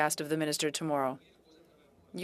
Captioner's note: speaking in French